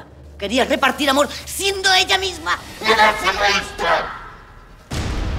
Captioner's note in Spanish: voz malvada